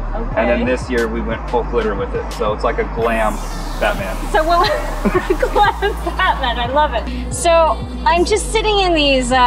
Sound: laughs

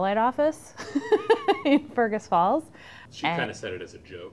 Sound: laughs

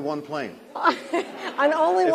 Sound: laughter

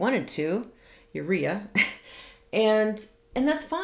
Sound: chuckles

